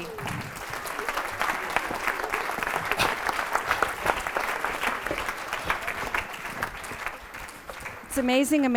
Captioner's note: applause